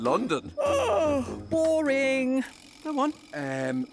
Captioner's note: yawning